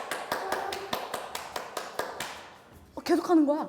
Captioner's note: clapping